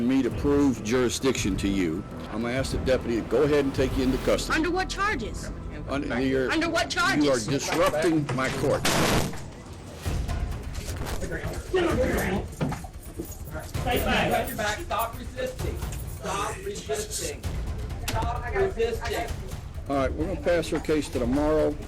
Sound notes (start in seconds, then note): 8.9 thuds; 13.8 indistinct chatter